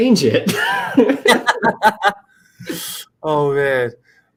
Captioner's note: laughter